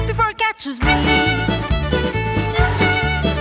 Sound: clap clap

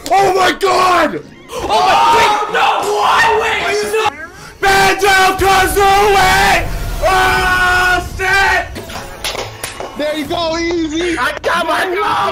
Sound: screaming

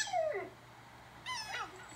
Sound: dog Whimpering; whimper; squeak

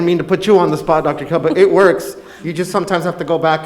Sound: laughs

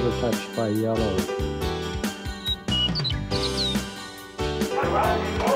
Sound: upbeat music; birds chirping; crowd cheering

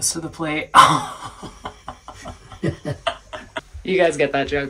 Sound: laughing

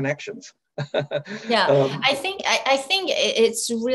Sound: chuckles

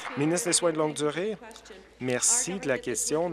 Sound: applause

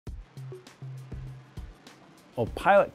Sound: music/Jets flying

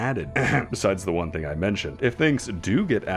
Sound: ahem

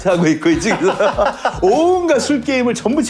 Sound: laughter

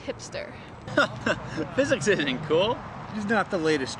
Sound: laughs

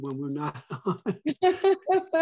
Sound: laugh

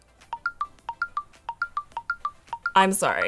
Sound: phone chiming

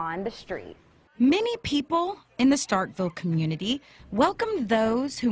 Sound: voice-over

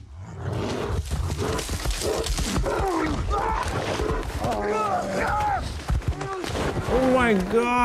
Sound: attack Bear Noises

